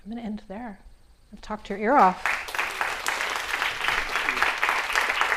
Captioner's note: clapping